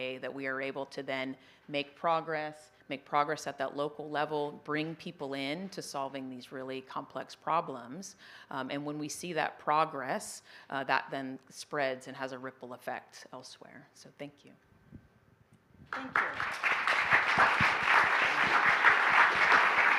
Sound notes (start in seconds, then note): 15.9 applause